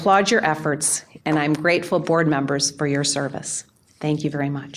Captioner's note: applause